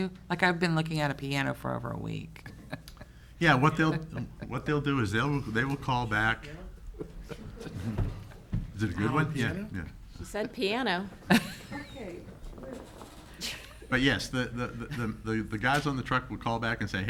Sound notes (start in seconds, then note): 6.9 people chuckling